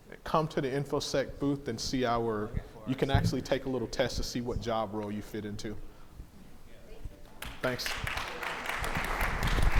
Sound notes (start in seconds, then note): 7.4 audience applauding